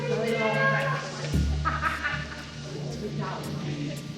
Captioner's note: laughing